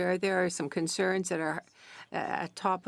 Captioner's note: speaking French